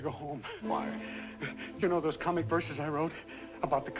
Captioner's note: gasp; gasp